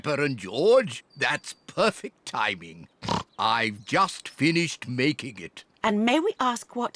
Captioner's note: snorts